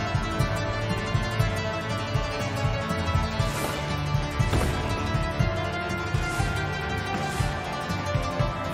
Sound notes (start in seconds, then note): 2.9 whoosh; 4.4 bang